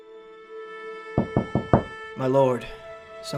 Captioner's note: knocking